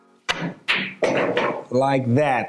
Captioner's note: balls clanging